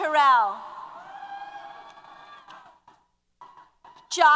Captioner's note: applause & Cheers